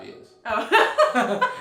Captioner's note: laughing